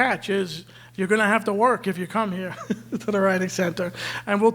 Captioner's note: laughs